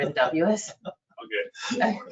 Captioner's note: man chuckling